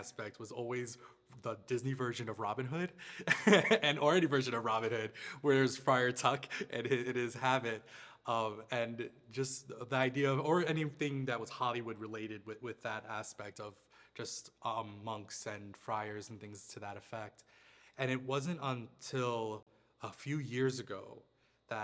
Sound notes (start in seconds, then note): 3.1 laughs